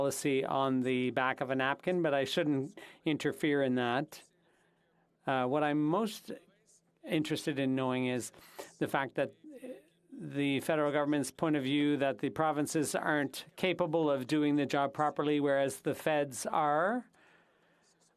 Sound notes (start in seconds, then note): 1.9 speaking French